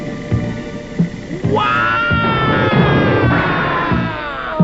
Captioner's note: shoutings